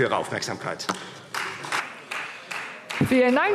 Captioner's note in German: Beifall Freie Demokraten